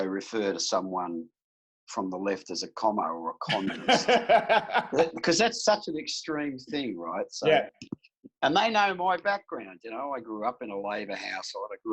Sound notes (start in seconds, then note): 3.4 laughing